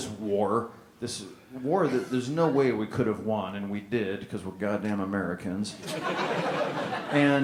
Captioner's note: laughter